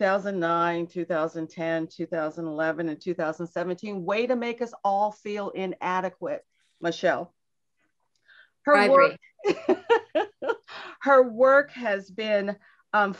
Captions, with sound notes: 2009, 2010, 2011 and 2017, way to make us all feel inadequate, Michelle. - Probably (laughs) - Her work has been